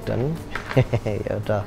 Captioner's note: chuckles